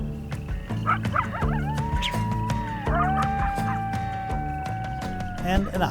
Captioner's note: bouncy music continues; coyote barks and howls